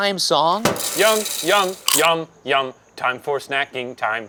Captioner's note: label popping